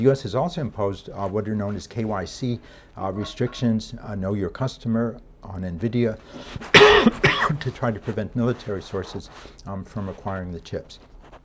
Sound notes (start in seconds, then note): 6.6 lecturer coughing